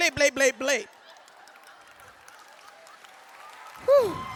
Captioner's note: audience cheers